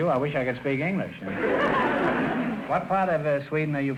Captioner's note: audience laughter